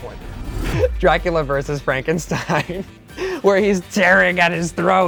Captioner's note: laugh